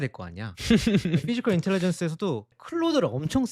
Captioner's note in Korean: 웃음